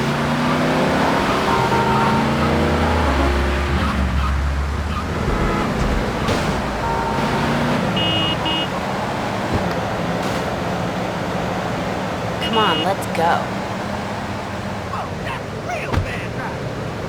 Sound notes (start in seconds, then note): 0.0 engine revving; 4.8 car honking